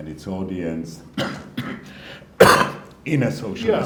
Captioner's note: coughing